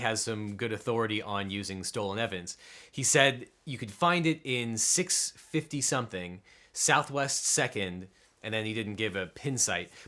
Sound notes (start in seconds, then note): none